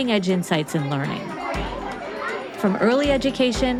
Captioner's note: students chattering